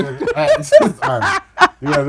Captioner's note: laughing